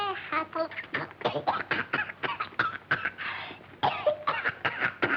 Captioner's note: singing; coughing